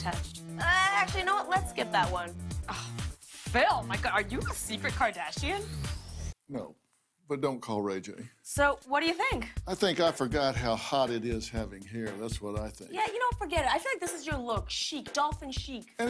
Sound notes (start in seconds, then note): 4.2 scoffs